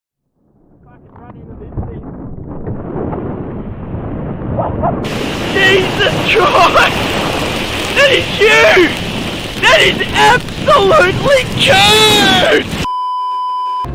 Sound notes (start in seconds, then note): 0.0 muffled dust devil noises; 5.0 dust devil noises; 10.9 dust devil noises; 12.8 beeeeeeeeeeeep